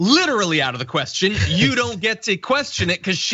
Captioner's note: laugh